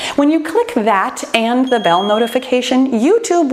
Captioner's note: bell chimes